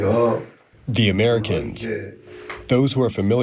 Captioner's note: through translator